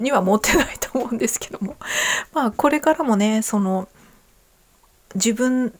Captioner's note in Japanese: 笑い